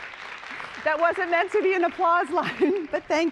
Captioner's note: applause